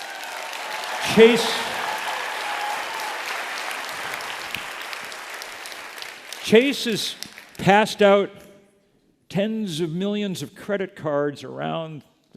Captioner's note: applause